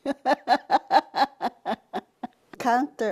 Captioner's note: chuckles